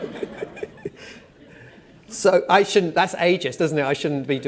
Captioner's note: laughter